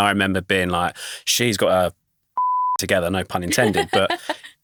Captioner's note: beeps